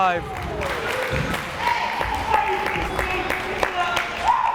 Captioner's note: crowd cheering